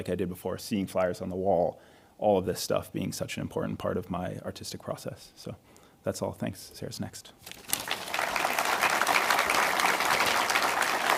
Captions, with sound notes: I did before, seeing flyers on the wall, all of this stuff being such an important part of my artistic process. So that's all. Thanks. Sarah's next. (audience applauds)